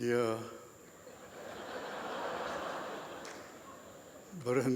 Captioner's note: laughter